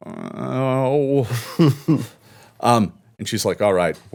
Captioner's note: Lucky groaning